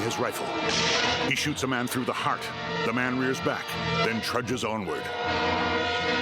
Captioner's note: gunfire